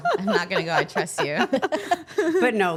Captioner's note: everyone laughs